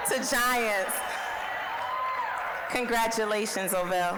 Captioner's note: applause, cheering